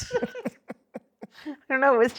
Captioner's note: laughing